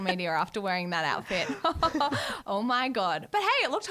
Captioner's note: laughs